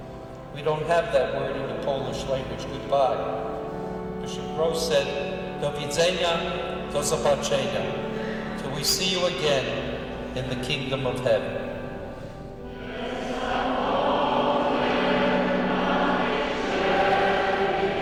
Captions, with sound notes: We don't have that word in the Polish language, goodbye. Bishop Grosz said (speaking Polish), till we see you again in the kingdom of heaven. (singing in Polish)